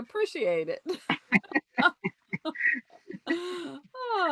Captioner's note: laughter